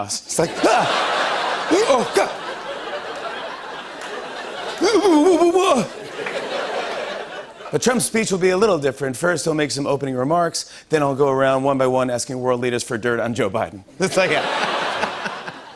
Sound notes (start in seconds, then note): 1.8 grunting; 3.0 laughter; 5.0 grunting